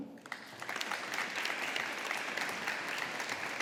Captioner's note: audience applauding